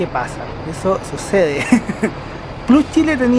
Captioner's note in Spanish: risas